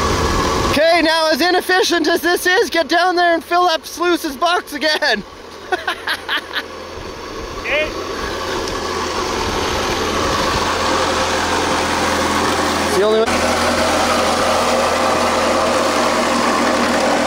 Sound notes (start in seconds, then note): 5.6 laughing